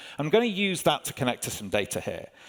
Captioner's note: none